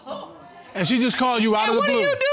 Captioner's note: audience gasps